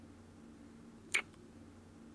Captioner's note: kiss